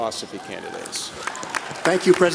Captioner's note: applause